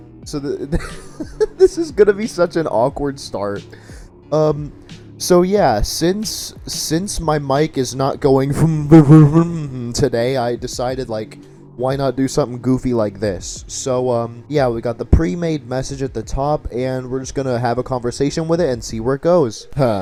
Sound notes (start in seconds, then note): 0.6 laughing; 7.8 mimics horrible quality mic